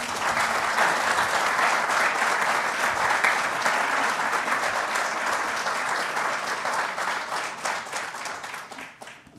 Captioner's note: applause